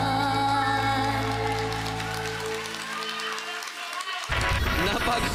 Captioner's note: applause, cheering